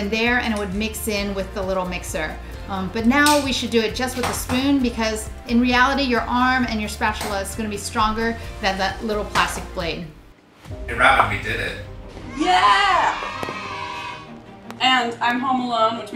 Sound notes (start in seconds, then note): 10.7 dramatic string music; 12.2 kids cheer